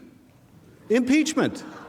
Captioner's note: laughter